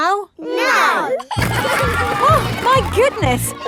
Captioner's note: giggling